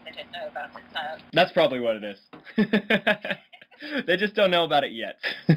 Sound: laughing; laughing

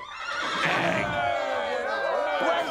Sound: cheering

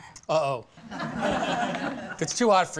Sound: laughter

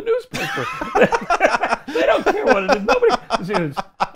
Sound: laughs

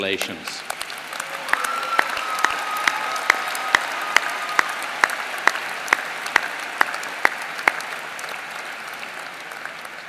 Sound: applause

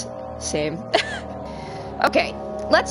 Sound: laughs

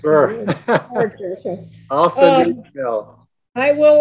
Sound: laughing

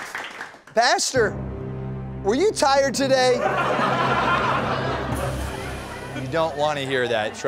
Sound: drum roll; laughter

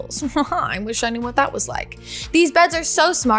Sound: chuckles

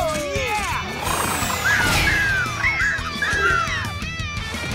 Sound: squeaking

